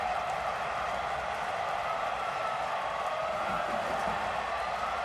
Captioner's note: cheering